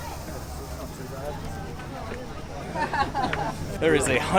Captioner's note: people chatting